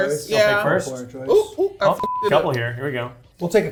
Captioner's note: beep